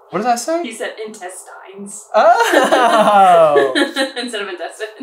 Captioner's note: laughs